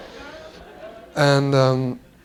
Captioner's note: laughter